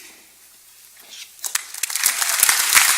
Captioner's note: applause